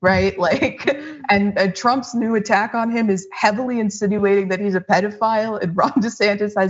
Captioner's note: laugh